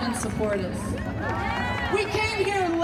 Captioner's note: crowd cheering